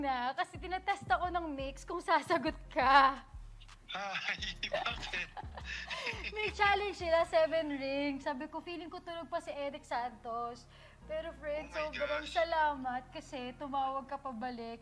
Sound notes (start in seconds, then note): 4.0 chuckles